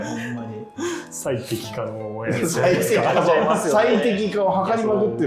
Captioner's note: laughing